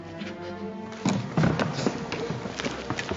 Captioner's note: sobs and chair clatters